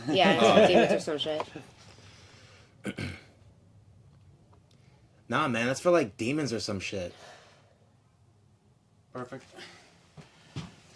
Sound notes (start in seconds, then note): 2.8 clears his throat